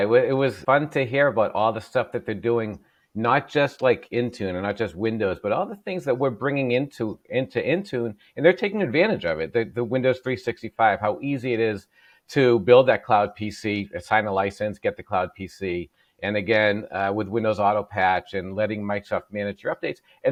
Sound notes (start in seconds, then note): none